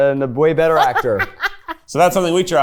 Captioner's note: laughs